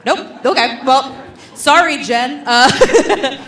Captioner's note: laughs